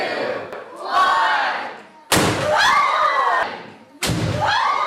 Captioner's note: explosions and cheering